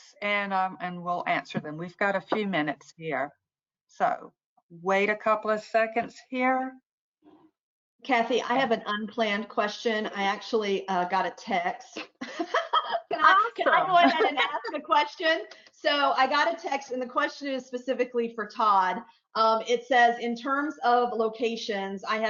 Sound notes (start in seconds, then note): 12.1 laughs